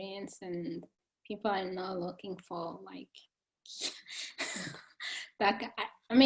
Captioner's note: chuckling